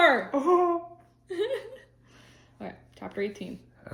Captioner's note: laughs